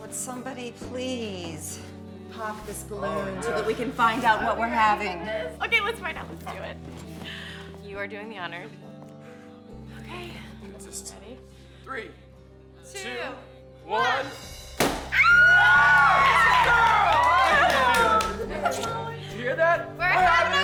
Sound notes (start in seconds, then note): 14.8 balloon popping; 15.2 Candace screams gleefully